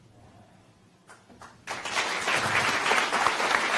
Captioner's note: applause